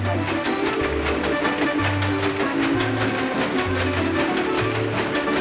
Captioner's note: loom clacking; upbeat music